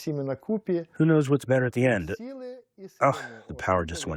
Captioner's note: through translator